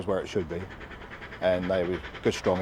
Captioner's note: train passes